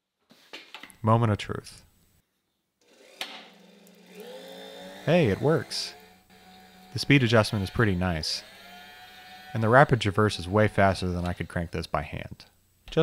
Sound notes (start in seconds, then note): 3.1 switch clicking; 4.1 engine whirring